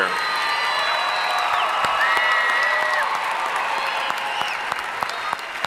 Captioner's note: audience cheering and applauding